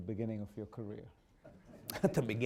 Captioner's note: laughter